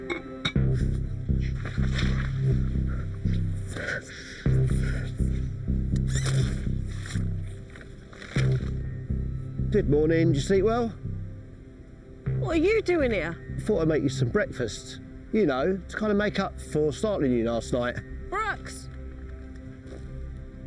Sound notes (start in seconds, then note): 0.0 metal clangs; 0.1 suspenseful music; 6.0 tent zipping